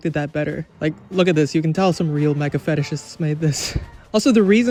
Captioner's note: laughs